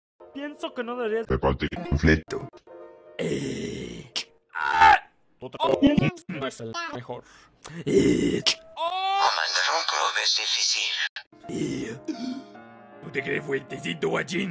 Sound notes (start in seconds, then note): 4.5 scream of pain; 8.8 scream of pain; 12.1 exclamation of surprise